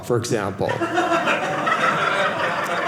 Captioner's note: audience laughing